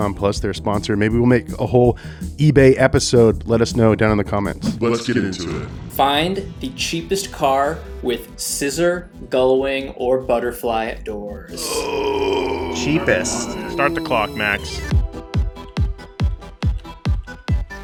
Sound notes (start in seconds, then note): 11.5 grunts; 13.6 upbeat music